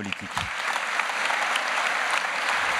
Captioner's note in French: Applaudissements